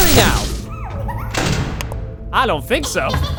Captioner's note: Bonnet giggles